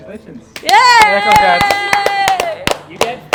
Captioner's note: everyone applauds